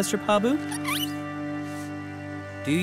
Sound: squeaking

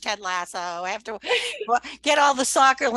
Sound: laughs

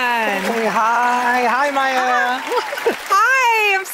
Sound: applause

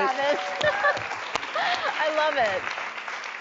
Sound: clapping

